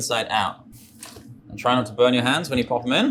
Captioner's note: potatoes slosh